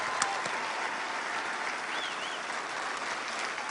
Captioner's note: applause